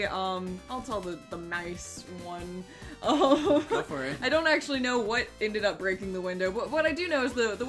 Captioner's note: laughing